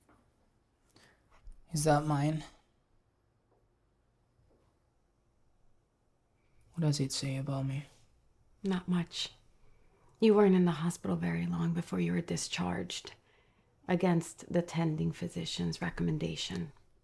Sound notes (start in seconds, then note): none